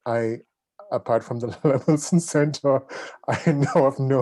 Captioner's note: chuckles